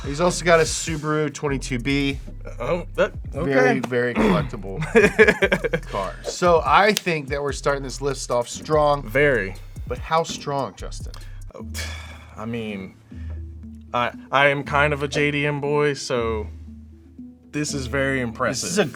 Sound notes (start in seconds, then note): 4.1 laughs